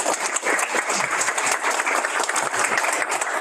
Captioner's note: applause